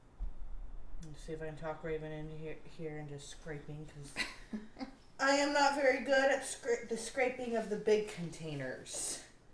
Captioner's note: laughs